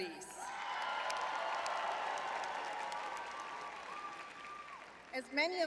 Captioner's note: audience cheering